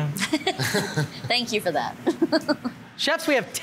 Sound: judges chuckle; chuckles

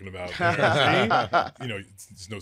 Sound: both laughing

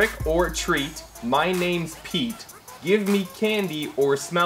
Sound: none

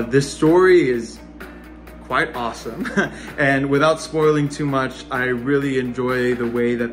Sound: laughs

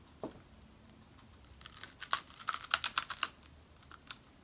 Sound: crunchy

